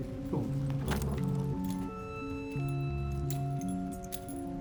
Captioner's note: keys jingling